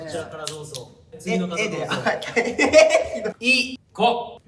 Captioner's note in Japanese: 笑いながら